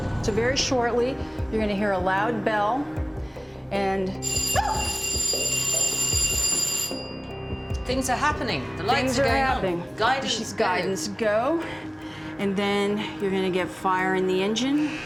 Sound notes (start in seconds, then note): 4.2 bell rings, yelps; 6.7 ringing stops